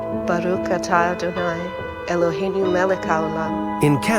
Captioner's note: speaks in foreign language